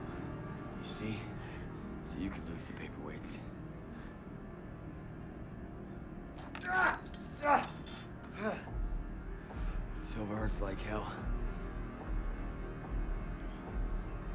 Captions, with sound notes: You see? See, you could lose the paperweights. (Solomon groans) (glass shattering) Silver hurts like hell. (dramatic music)